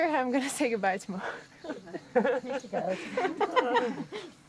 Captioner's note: laughing